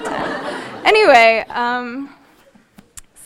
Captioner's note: audience laughing